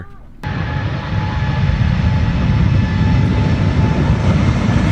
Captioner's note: aeroplane engines roaring